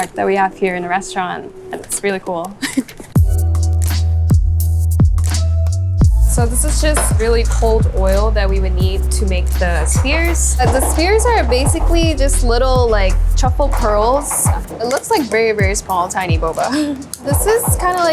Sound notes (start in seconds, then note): 2.5 chuckles; 2.7 upbeat ambient music; 16.5 chuckles